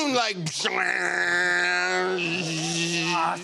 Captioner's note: imitating rockets firing